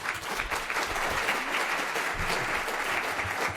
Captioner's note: applause